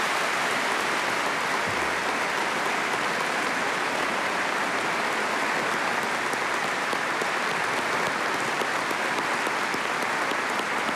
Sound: applause

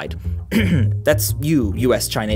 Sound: cough cough

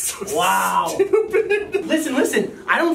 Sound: laughing

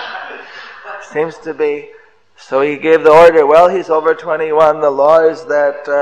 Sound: devotees laughs

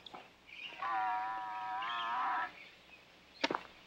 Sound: cow mooing

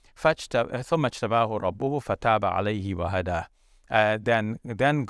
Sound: speaks in foreign language

